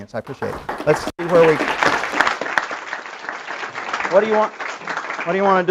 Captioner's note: applause